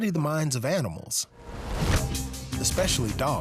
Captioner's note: ball thuds